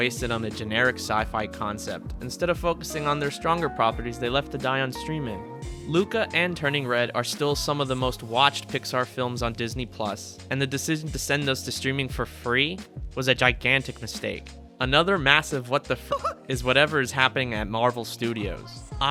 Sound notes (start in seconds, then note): 16.1 hyuck